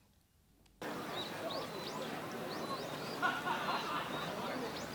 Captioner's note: birds chirping; people chattering; person laughing